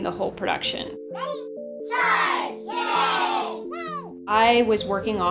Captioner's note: cartoonish voices